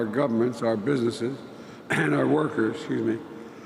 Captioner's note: coughs